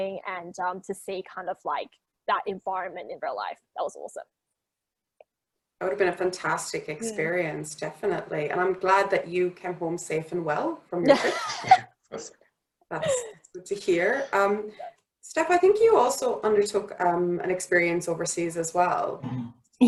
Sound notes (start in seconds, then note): 11.0 laughs